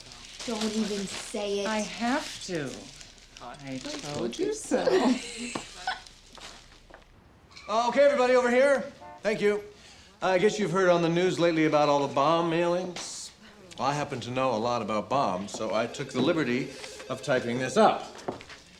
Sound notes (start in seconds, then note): 4.8 laughs